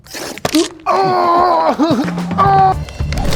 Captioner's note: groans